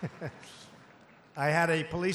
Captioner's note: laughter